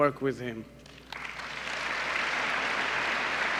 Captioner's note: applause